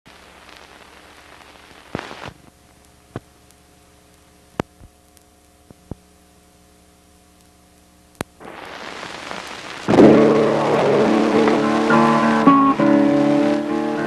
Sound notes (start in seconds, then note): 0.0 background static; 10.0 background music